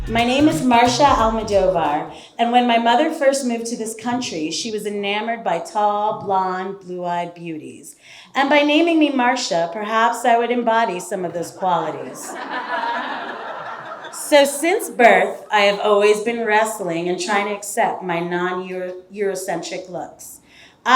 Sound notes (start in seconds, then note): 11.6 audience laughing